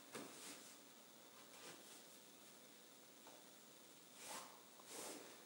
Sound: cloth rustling continuing

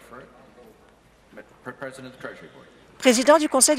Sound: applause

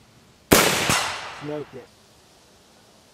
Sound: rifle fires; voiceover

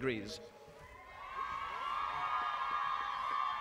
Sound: applause

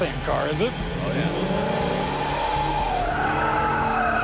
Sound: tires squealing

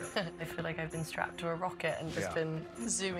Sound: chuckles

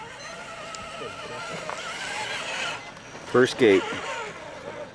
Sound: motor whining

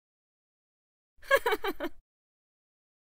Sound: sound of female laugh

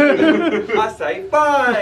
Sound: chuckling

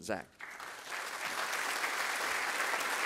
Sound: applause

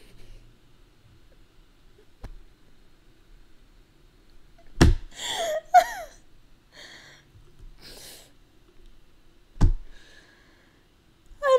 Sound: more laughing

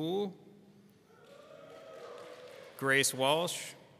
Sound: people screaming

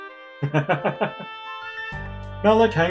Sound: laughs

